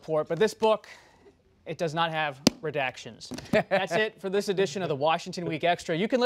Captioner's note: laughter